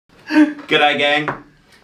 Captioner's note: laughing